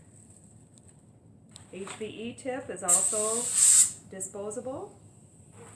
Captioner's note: pressure release sound